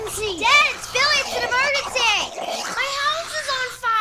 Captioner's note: continual sucking noises